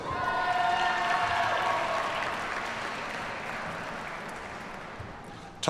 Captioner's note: audience cheers and applauds